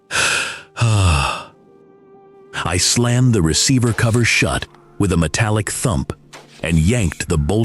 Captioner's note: sigh